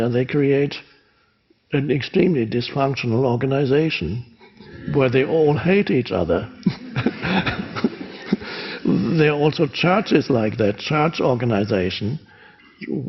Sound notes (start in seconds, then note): 6.4 laughs; 6.6 crowd laughs